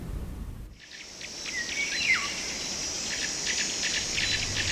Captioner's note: forest ambience, birds singing